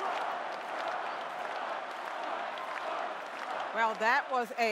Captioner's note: cheering and applause